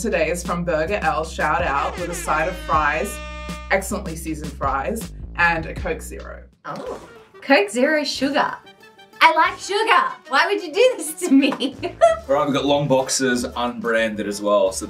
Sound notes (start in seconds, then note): 11.6 chuckles